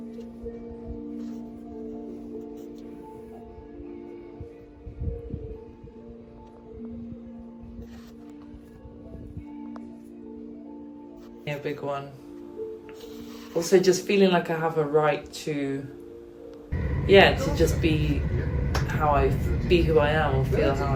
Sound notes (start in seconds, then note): 0.1 ethereal music; 12.8 ethereal music; 13.0 pages turning